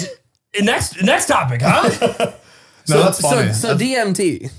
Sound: they laugh

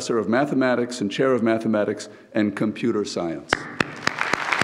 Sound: claps; audience applauds

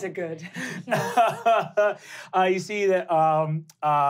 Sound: laughing

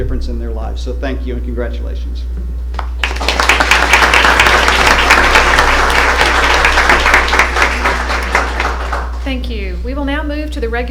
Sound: applause

